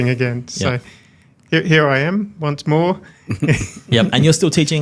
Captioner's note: everyone chuckles